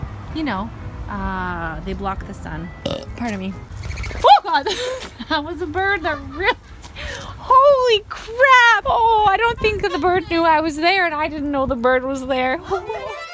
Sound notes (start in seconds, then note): 2.8 burps; 3.3 bird chirps; 5.8 laughs; 13.1 upbeat classical music